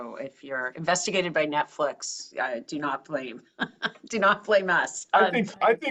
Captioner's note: laugh